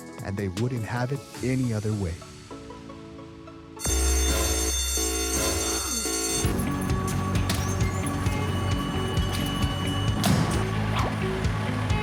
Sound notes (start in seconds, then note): 6.5 metal clanking; 10.2 door shuts